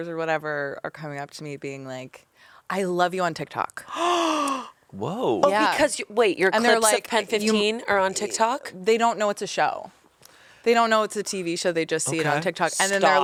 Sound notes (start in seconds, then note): 3.9 gasps